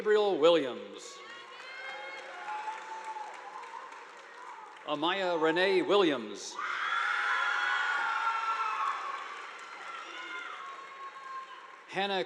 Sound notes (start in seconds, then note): 1.2 audience applauding; 6.5 students cheering; 7.3 audience applauding